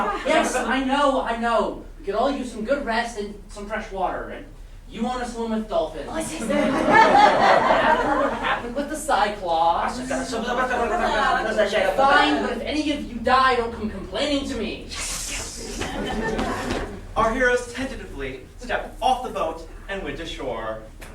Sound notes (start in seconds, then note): 6.4 laughter; 10.0 sailors arguing in grammelot